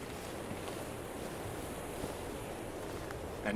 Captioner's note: footsteps